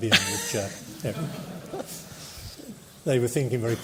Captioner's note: laughter